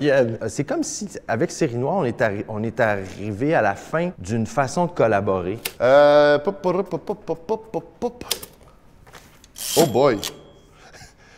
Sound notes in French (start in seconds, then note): 6.4 fredonnement